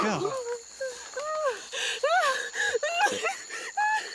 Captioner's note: crying